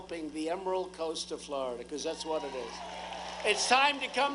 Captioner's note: applause